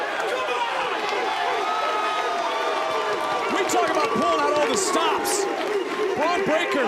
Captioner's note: crowd barks